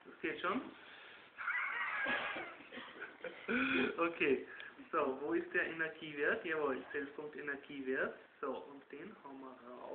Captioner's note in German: lachen